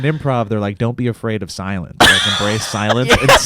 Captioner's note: laughs